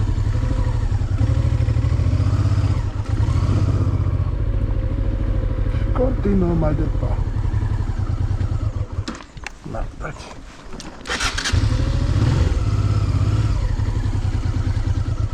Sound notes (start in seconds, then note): 8.2 engine dies; 10.9 engine restarts